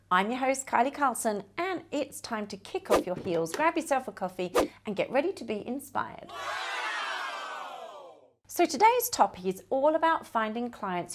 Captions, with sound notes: I'm your host, Kylie Carlson, and it's time to kick off your heels, grab yourself a coffee, and get ready to be inspired. (studio audience wow) So today's topic is all about finding clients